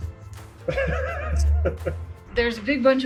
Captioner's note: laughing